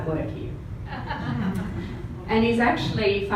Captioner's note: all laugh